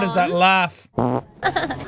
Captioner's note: fart noise; fored laugh